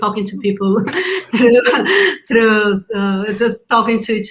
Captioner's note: laughing